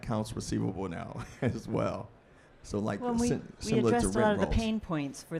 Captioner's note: laughs